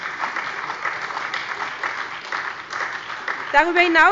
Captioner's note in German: Beifall bei der SPD